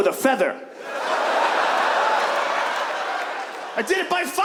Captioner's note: audience laughs